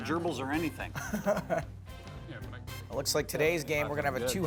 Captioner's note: laughs